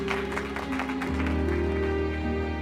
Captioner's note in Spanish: aplausos